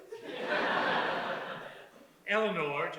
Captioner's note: audience laughs